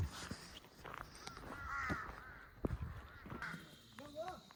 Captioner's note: crow sounds